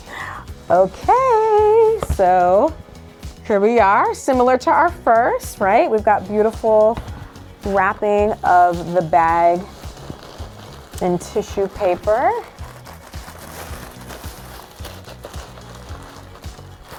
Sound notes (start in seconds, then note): 0.0 gasps; 10.3 tissue paper crinkles